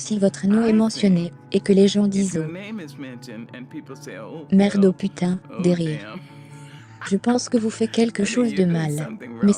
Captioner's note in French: des rires